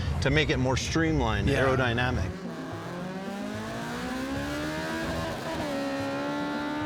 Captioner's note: engine roaring